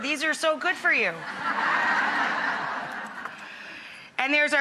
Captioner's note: audience laughs